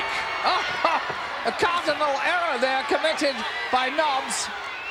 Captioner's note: laugh